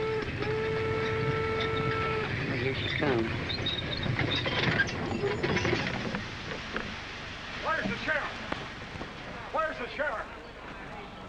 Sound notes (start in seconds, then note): 0.0 train whistling; 4.0 train rattling to a stop